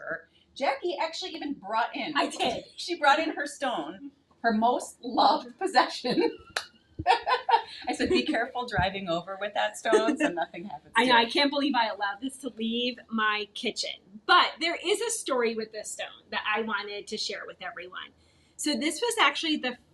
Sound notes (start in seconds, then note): 5.4 laughing; 7.0 chuckling